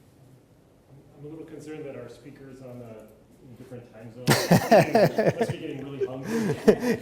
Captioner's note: laughs